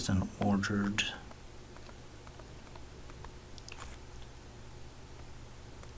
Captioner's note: writing Sounds